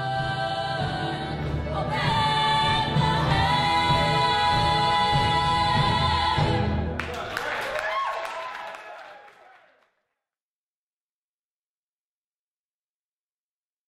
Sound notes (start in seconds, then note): 6.9 applause